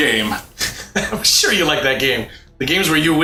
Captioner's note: laughing